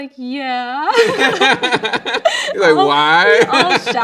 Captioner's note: both laughing